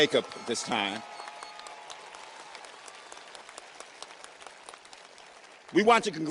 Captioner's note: audience cheers and applauds